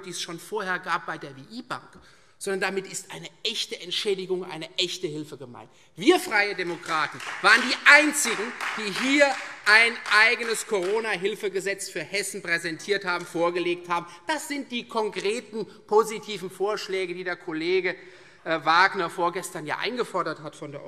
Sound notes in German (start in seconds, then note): 6.1 Beifall Freie Demokraten, SPD und vereinzelt DIE LINKE